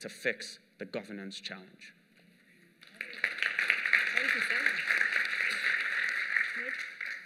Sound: applause

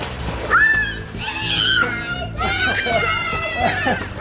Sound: shouting

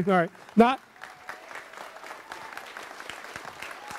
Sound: audience applauds

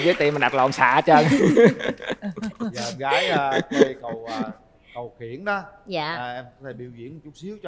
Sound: laughter

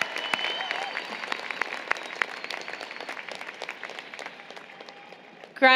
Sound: applause, Cheering

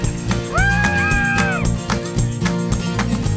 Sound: cheering

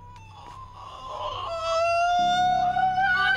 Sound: ABED begins shrieking

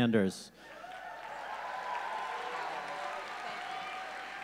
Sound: audience cheering

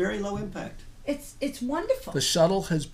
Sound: voiceover

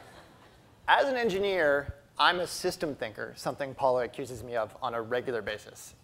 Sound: audience laughter

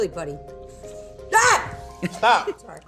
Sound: screams

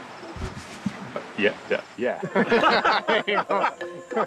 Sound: stammers; laughter

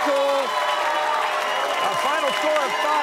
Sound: cheers and applause

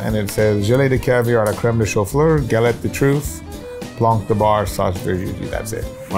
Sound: speaks in French

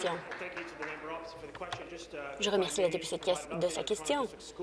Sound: applause

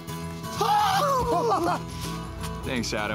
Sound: laughs

